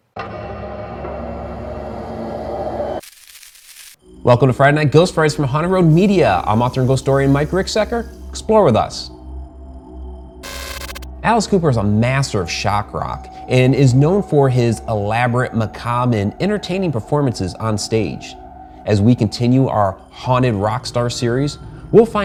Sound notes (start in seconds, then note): 0.3 haunting music; 3.0 picture scratching; 10.4 picture buzzes